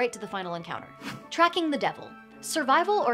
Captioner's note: air whooshing